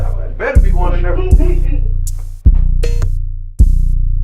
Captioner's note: girlfriend laughs; tense music